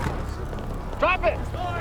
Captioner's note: siren blaring in the distance